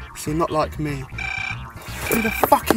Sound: mobile Phone Ringing

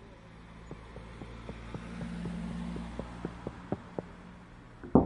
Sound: footsteps running closer outside; repeated knocking on the window

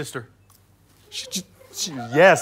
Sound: stutters

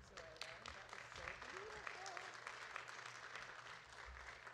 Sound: audience clapping

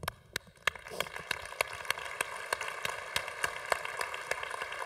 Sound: congregation applauding

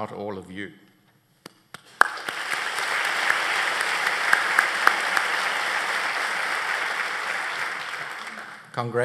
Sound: applause

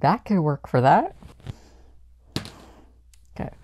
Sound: dice hitting the board

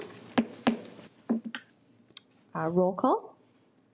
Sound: gavel bangs

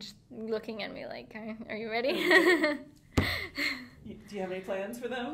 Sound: laughing

